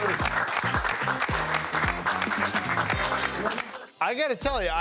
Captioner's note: group applauds